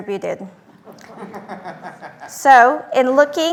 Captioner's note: laughter